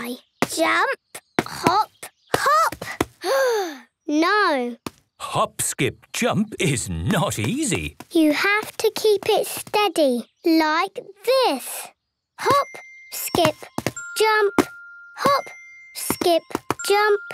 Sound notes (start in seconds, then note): 3.2 sigh